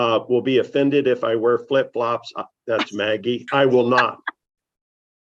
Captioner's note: laughter